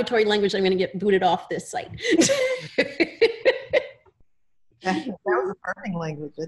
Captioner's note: laughter